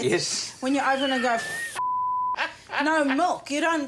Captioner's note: beep